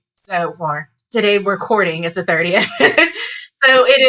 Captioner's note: laughs